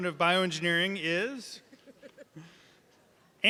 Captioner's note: laughing